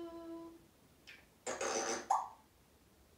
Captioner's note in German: Pffff sound